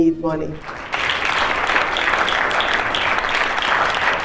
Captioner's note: audience clap